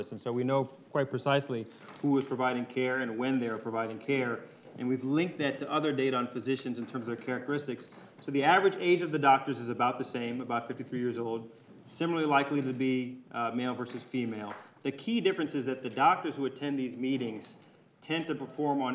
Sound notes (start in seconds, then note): none